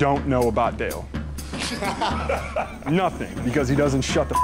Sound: laughter

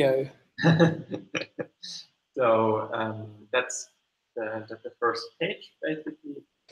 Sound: lightly laughs

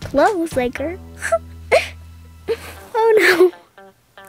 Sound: laughs

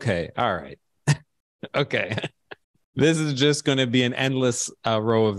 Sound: chuckles

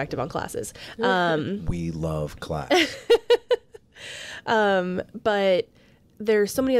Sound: laughs

